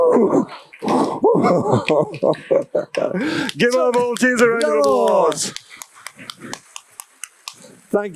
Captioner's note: applause/brawa